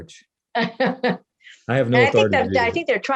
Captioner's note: laughing